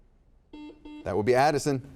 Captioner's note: buzzer dings